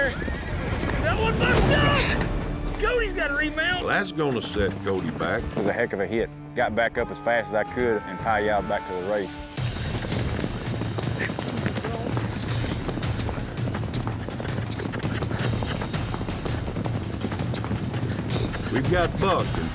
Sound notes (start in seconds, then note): 0.9 horse neighs wildly; 1.6 thud